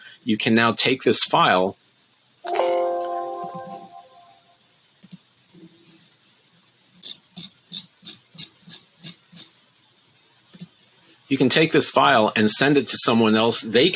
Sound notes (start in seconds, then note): 2.4 Windows notification beeping; 7.5 mouse wheel scrolling